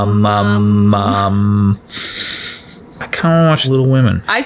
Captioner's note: both laugh